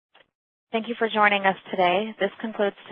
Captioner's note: voiceover